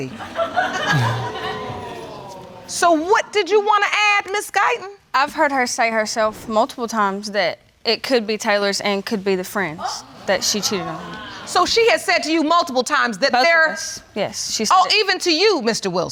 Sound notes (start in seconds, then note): 0.0 audience laughing; 10.1 audience exclaiming